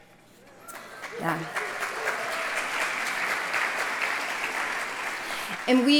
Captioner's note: applause